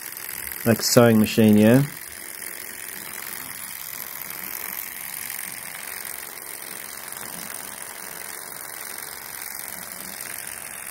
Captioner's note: engine noises